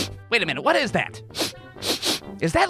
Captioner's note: sniffs